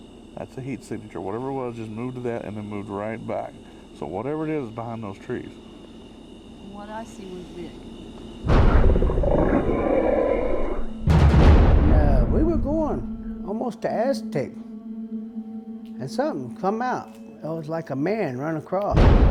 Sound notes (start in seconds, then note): 6.9 creature growling; 6.9 dramatic music